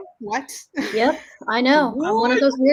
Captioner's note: chuckles